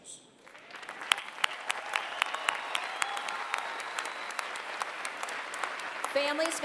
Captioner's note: applause